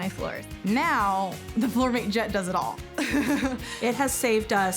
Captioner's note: laughing